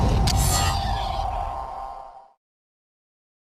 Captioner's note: loud swoosh